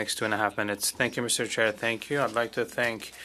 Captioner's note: speaking French